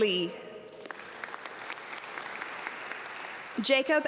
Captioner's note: audience applaud